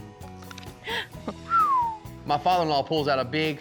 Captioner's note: whistles